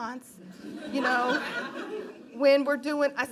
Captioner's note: laughing